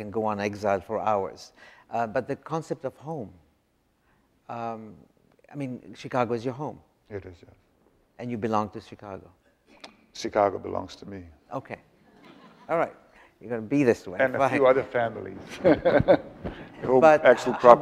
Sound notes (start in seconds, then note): 12.1 audience laughs; 15.4 laughs